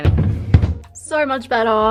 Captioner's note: drawer opening